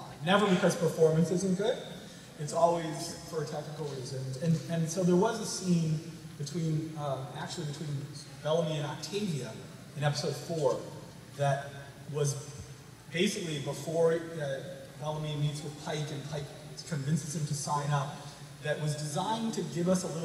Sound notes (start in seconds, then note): none